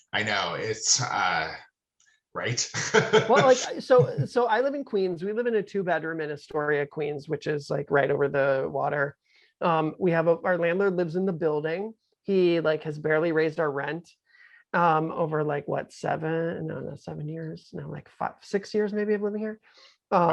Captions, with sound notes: I know. It's... Right? (laughing) - Well, like, so I live in Queens. We live in a two bedroom in Astoria, Queens, which is like right over the water. Our landlord lives in the building. He like has barely raised our rent over like, what, seven? No, no, seven years, no, like five, six years maybe of living here.